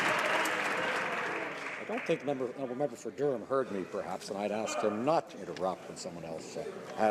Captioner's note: some Applause